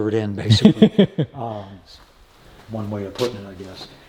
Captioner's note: laughing